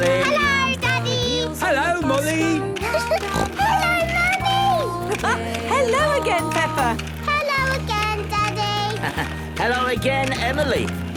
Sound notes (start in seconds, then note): 2.9 giggling and snorting; 5.3 laughing; 8.9 laughing